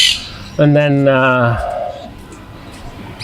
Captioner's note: sighing